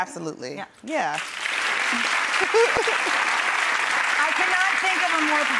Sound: clapping

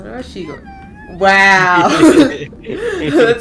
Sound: giggling

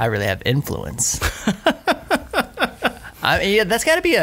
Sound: laughter

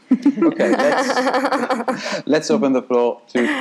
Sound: group laughing

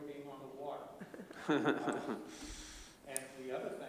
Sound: laughter

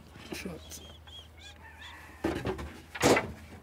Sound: distant cackling

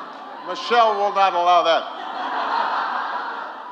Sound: laughter

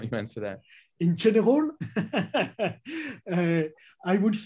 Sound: laughs

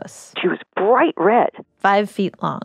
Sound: speaking with gentle wonder

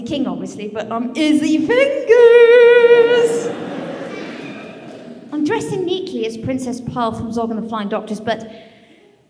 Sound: laughter

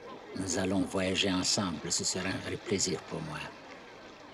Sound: in German

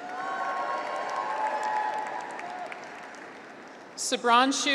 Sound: graduates cheer

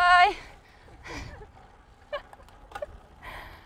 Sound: giggling

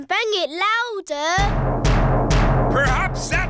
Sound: banging

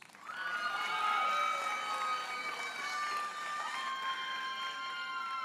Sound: audience cheers and applauds

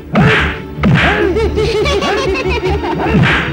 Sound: laughs

